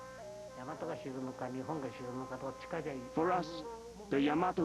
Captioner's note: speaking Japanese